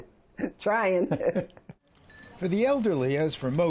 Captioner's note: laughter